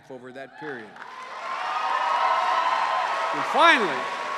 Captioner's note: cheers and applause